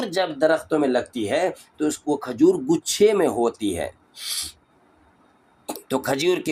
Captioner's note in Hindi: नाक से की जाने वाली आवाज़